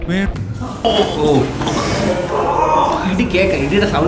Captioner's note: screams in probably real pain